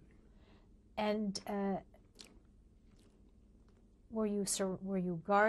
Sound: pauses for 3 seconds

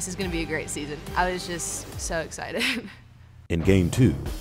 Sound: chuckles

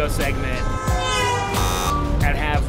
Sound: horn honks, buzzer sounds

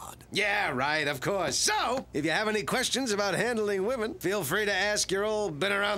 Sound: none

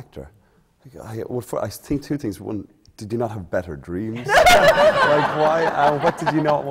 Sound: laughter

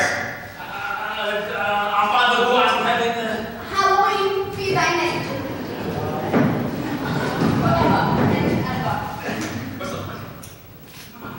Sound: mumbled, completely wrong attempts at congregational prayers

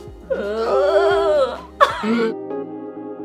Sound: both laugh

